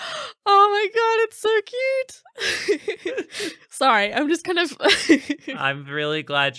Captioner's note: laughing